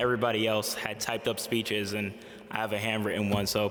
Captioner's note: none